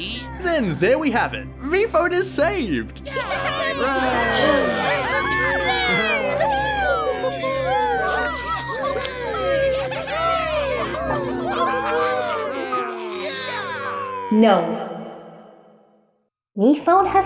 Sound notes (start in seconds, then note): 3.0 cheering continues; 11.1 somber music